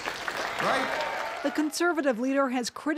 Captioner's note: applause